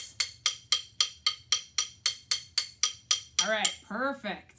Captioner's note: clicks sticks together